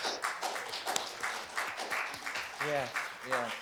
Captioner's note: applause